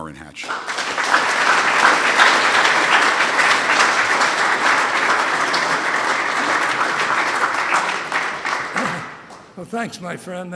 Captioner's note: applause